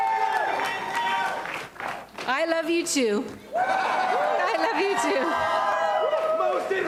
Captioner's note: cheering